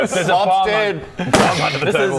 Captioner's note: boom